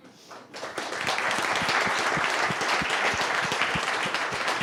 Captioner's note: audience applauding